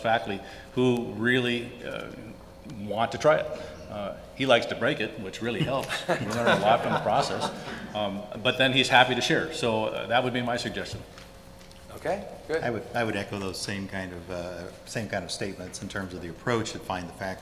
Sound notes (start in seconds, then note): 5.6 audience laughter